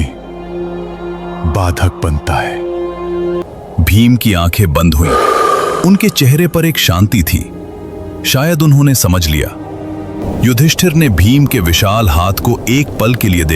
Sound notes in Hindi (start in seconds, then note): 5.0 गहरी सांस लेने की आवाज़